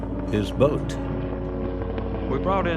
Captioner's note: helicopter roaring